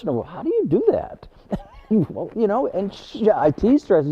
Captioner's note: chuckles